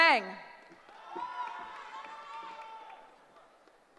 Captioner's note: cheering